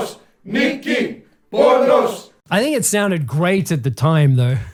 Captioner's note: crowd chanting Greek in recording